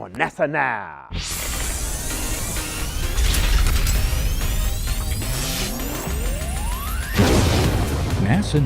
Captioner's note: sound Effects